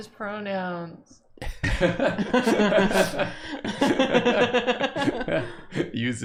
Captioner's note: laughter